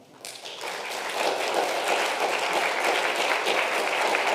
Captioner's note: congregation applauds